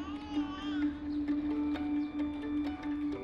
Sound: baby crying

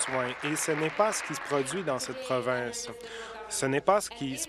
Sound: applause

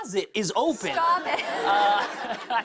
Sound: laughter

